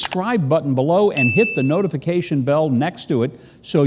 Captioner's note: bell chimes